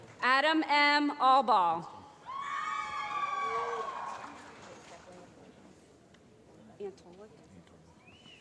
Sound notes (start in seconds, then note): 3.3 applause